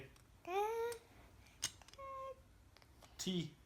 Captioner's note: cooing